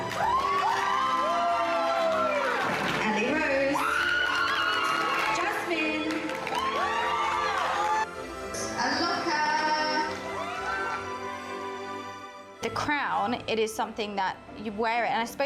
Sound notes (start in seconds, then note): 0.0 everyone cheering; 10.2 everyone cheering; 11.3 soft music